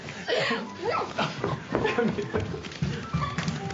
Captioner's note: laughing